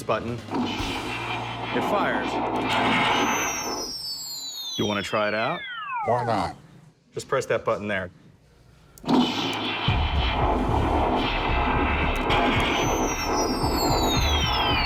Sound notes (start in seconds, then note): 0.5 sound effects; 3.6 machine winds down; 9.1 sound effects